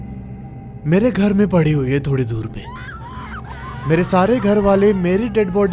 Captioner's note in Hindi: चीखने की आवाज़